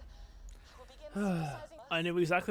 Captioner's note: sigh